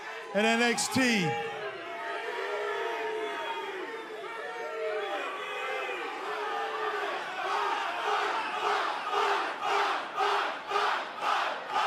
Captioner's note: crowd cheering